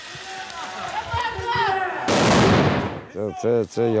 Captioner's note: shouts, bang